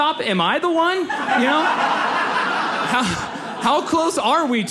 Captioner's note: audience laughs